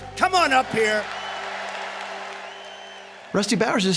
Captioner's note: cheers and applause